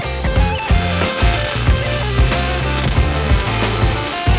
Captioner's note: weld grinding